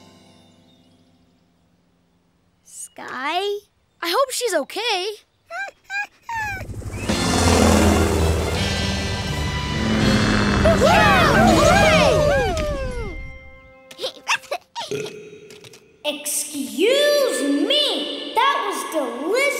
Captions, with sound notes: -Skye? -I hope she's okay. [whimpering] [cheering] Excuse me! That was delicious!